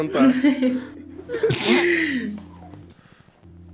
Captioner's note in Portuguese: Triz e Guaxi riem